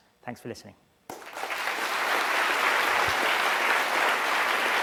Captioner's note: applause